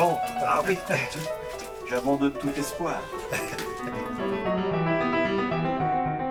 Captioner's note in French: rires